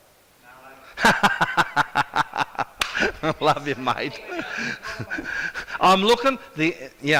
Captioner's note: laughs